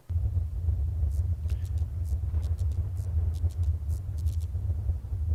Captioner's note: electric light buzzes; thunder roars